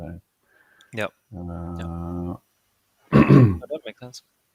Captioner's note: clearing throat